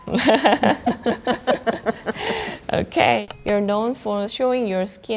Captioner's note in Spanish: risas